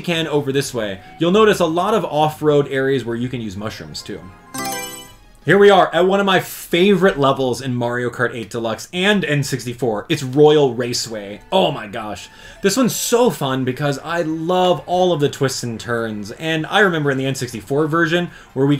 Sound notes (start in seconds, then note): 4.5 Mario Selection Sound